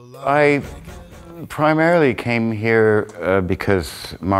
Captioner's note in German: spricht englisch